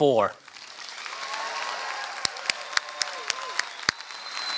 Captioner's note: applause